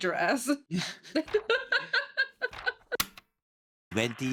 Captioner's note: laughing